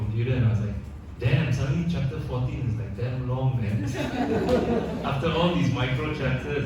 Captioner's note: audience laughs